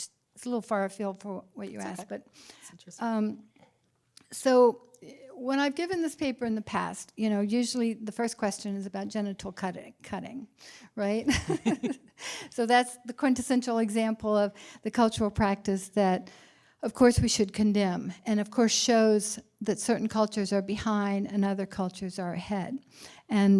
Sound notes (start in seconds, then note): 11.2 laughter